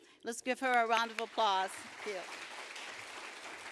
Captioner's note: applause